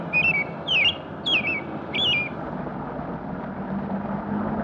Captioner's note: chirping continues; ambient sounds from traffic